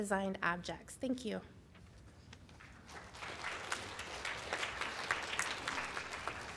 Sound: applause

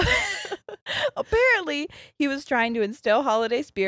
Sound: both laughing

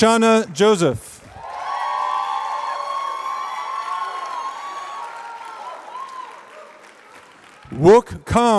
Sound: applause

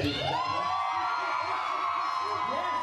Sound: cheering

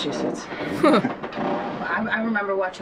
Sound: chuckles

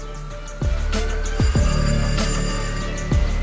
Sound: sonnette

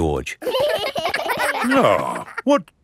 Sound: giggling

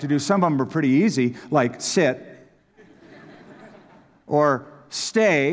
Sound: laughter

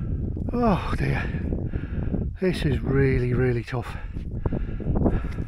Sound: breathless

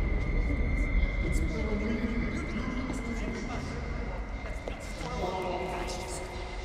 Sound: high-pitched ringing

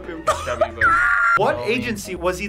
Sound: screams

